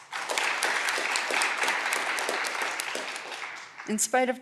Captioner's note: audience clapping